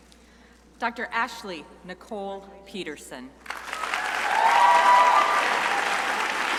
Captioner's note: crowd applauding